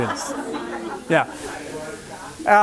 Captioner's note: laughter